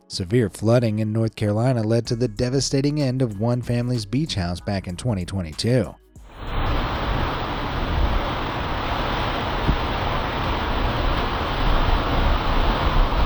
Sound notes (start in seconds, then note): 6.3 waves roaring; 6.3 wind gusting